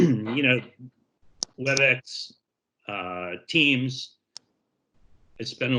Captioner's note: clears throat; headphones tapping on zipper